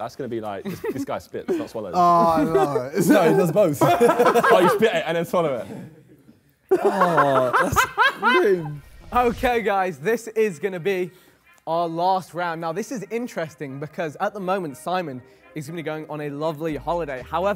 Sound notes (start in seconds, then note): 6.7 Ethan laughs